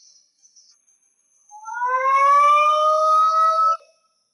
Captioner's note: police siren blares